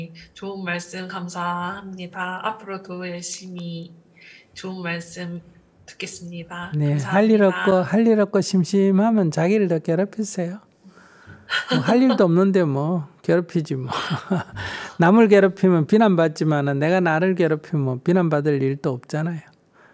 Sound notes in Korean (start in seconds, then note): 11.5 질문자 웃음; 13.9 웃음